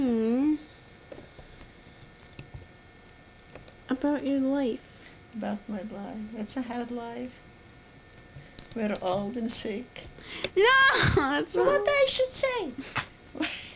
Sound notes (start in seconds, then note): 10.6 yells; 10.8 laughs